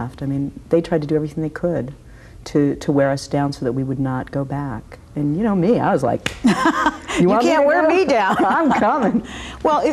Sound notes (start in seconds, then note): 6.2 claps